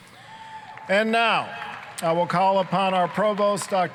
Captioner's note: applause